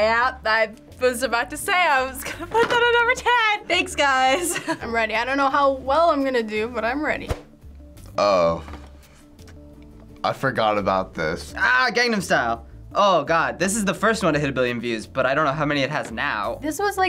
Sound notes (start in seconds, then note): 4.3 laughs